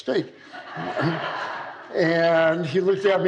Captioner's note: laughter